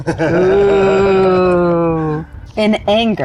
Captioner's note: players laughing